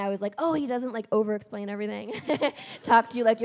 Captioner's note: chuckles